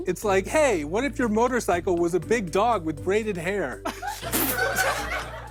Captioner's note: light laughter